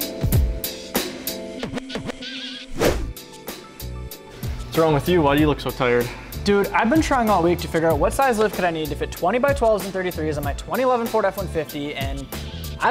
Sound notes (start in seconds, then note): 2.7 whoosh